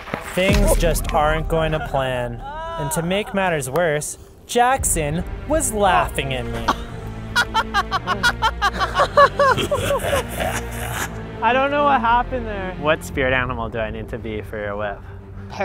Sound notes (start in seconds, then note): 7.3 laughter; 9.8 evil laugh